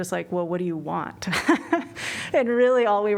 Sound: laughter

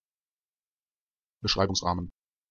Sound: fast Pronunciation

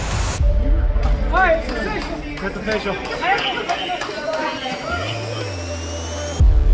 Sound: clapping

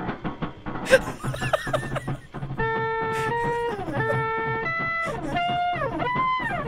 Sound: laughs; sped-up percussive horn music; laughs

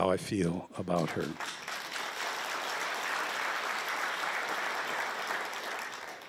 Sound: applause

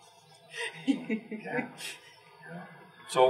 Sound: laugh

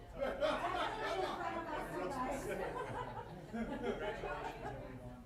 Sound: laughter and overlapping voices

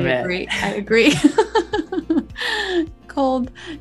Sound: both laugh

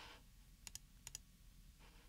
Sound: Mouse Clicking - Logitech MX Master

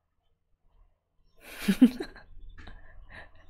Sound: laughs

